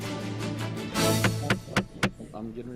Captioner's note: gavel banging